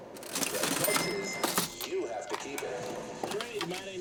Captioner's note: cash register dings loudly